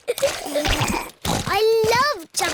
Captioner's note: giggling